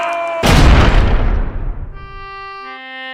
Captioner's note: jail Cell Door Slams